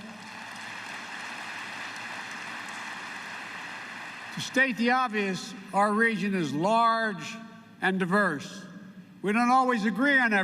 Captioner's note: applause